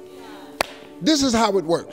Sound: claps

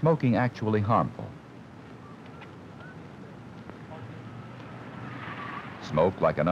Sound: traffic sounds

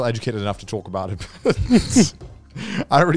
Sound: laughs

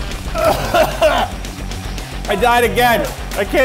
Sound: gags

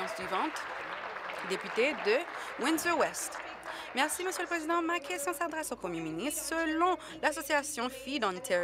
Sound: applause

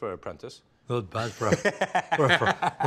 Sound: Ming laughing

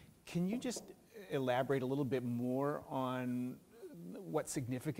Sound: none

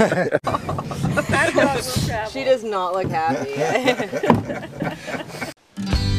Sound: laughing

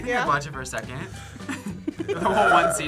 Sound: laughs

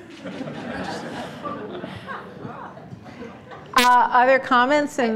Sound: audience laughter

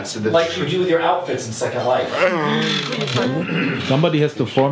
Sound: all laugh

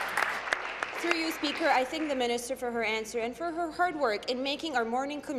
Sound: applause

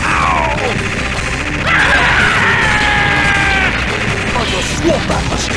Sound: screams

